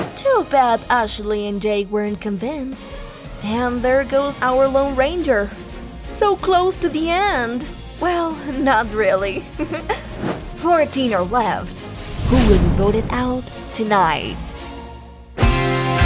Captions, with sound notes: Too bad Ashley and Jake weren’t convinced! And there goes our lone ranger… so close to the end! Well, not really! [laughs] 14 are left. Who will be voted out tonight?